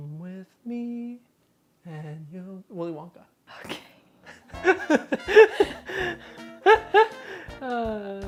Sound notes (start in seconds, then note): 4.2 laughing; 4.3 whispers